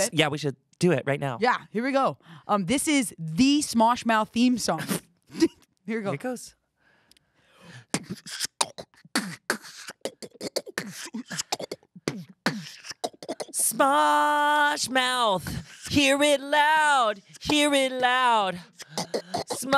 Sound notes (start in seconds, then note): 7.8 beatboxing